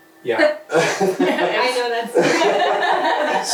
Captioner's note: others laugh